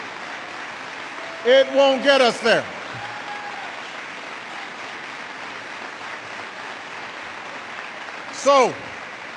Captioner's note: applause